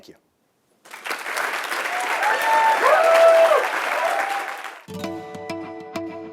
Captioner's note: applause